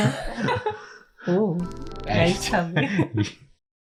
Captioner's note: sounds like a spaceship leaving?